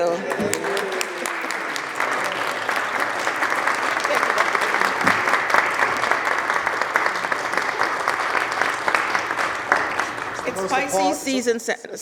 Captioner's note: applause